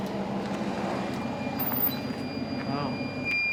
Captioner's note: devices beeping